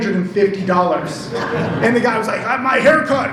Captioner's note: audience laughs